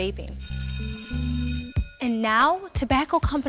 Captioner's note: school bell rings